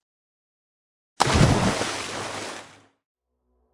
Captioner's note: something falls into the water